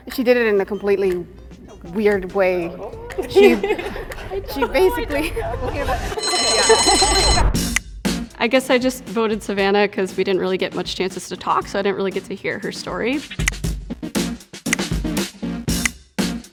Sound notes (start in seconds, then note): 3.0 women laugh; 6.1 bell rings; 13.9 upbeat music